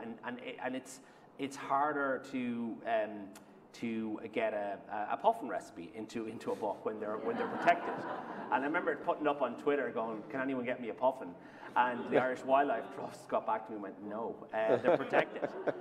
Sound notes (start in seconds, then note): 7.1 laughter